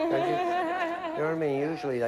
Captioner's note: none